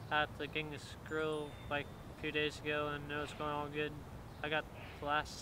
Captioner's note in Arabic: يتمتمة